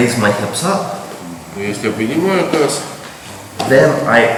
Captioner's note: speaking in a foreign language